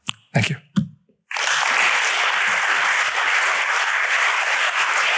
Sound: applause

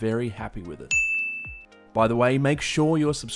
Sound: bell rings

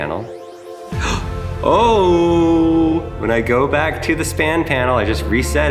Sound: gasps

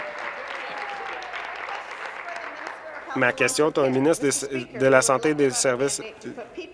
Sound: applause

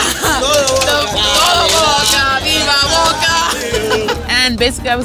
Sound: chanting in Spanish

